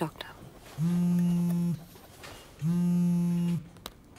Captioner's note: Phone vibrating